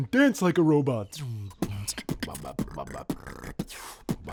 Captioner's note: beat boxing